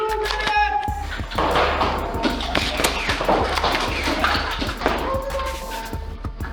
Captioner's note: motors revving and darts thunking from multiple blasters with indistinct talking